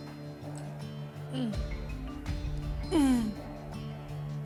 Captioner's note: moans